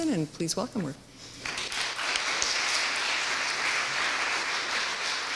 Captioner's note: audience applauds